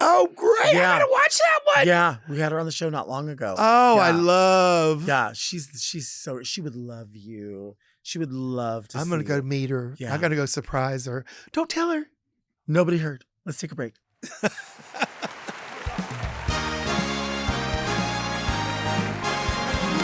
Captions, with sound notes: - Oh great, I gotta watch that one. - Yeah, we had her on the show not long ago. - Oh, I love. - Yeah, she's so, she would love you. She would love to see you. - I'm gonna go meet her. I'm gotta go surprise her. Don't tell her. - Nobody heard. Let's take a break. (laughs) (audience applauds) (upbeat music begins)